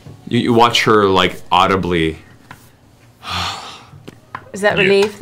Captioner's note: sighs